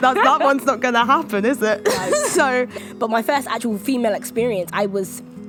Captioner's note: laughing